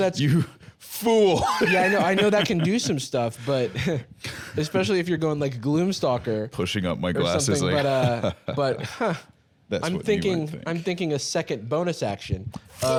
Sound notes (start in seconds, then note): 7.9 evil laughter